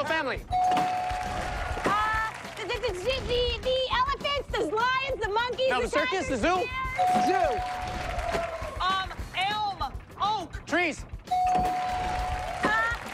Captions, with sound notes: - Uh, the royal family. [bell dings] - [stammers] The elephant, the lions, the monkeys. - The circus, the zoo? - Zoo. - Um, elm, oak. - Trees. [bell dings] - Trees.